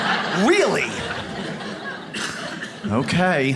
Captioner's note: audience laughs